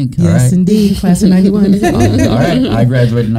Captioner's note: all laughing